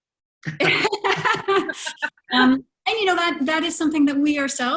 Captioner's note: laughter